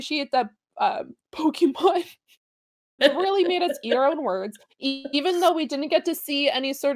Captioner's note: chuckle